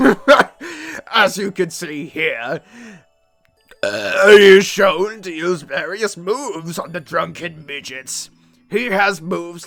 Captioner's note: burp